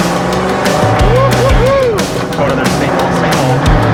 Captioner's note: engine revs